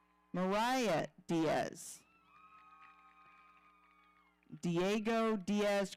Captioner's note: audience cheering